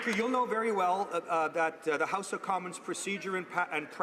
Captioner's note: applause